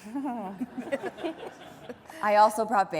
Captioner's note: laughing